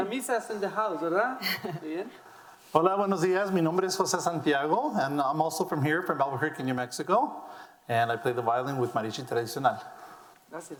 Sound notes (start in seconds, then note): 2.7 speaking in foreign language